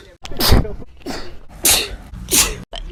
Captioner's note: achoooo